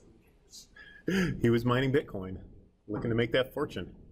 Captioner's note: chuckling